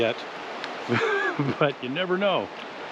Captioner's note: chuckling